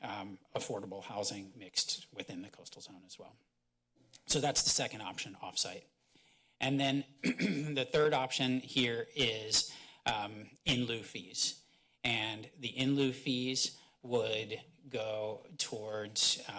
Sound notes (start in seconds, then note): 7.2 clears throat